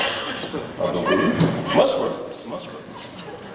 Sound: laughs

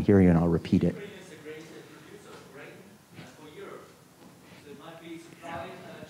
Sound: student speaking faintly

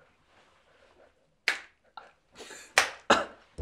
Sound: crack

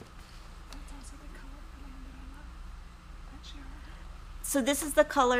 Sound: background whispers

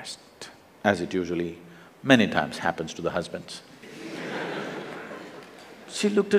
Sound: laughter; 笑聲

